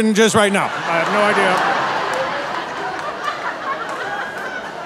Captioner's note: audience laughing